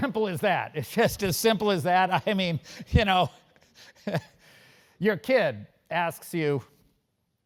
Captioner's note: laugh